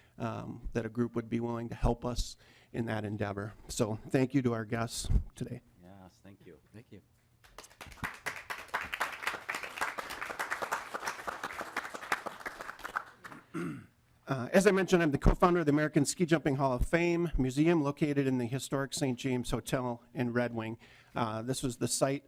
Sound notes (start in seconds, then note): 13.8 applause